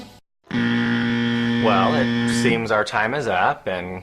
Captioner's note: buzzer